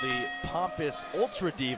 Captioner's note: bell ringing